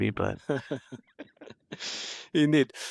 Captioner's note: laughing